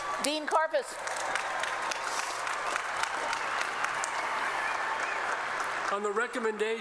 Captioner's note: applause